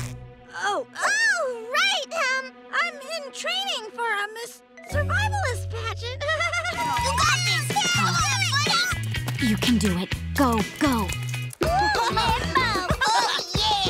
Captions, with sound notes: Oh. Oh, right, um, I'm in training for a Miss... Survivalist pageant. [giggling] You've got this! You can do it, go, go. Whew, limbo. Oh, yeah.